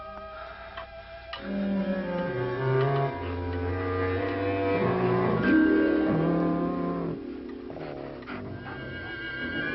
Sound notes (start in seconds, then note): 1.9 eerie music; 5.7 wolf growling